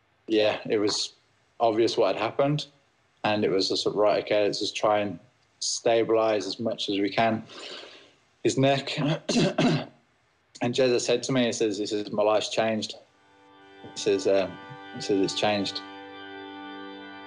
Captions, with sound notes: Yeah. It was obvious what had happened. And it was just, right, OK, let's just try and stabilise, as much as we can, His neck. (CLEARS THROAT) And Jezza said to me, he says, 'My life's changed.' He says, um— He says, 'It's changed.'